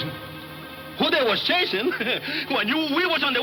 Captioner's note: chuckles